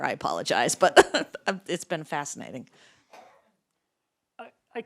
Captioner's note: laughs